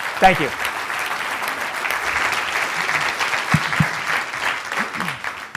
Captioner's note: applause